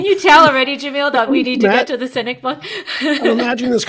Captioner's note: chuckling